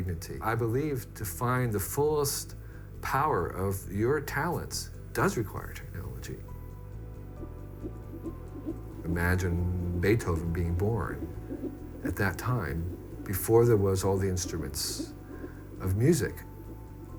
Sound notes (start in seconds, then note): 8.1 heart beating on ultrasound